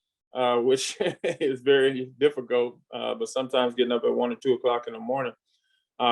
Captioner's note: laughs